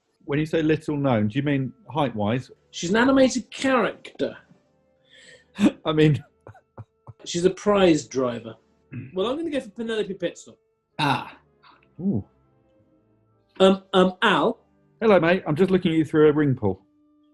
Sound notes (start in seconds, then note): 5.6 laughing